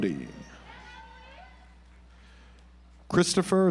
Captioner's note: audience applauds